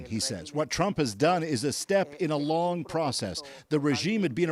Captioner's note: speaking alternate language